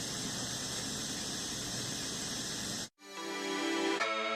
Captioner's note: static hissing